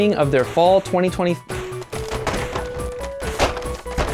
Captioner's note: knocking gjallarhorn on shelves